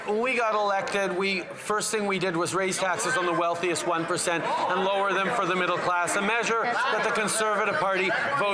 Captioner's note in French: voix de l'interprète